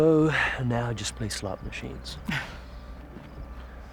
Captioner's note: laughs